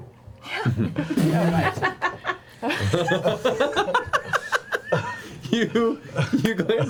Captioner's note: all laugh